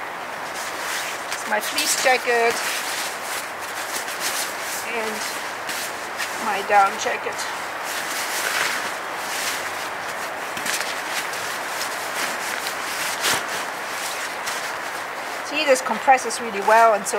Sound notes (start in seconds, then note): 8.1 sound of rustling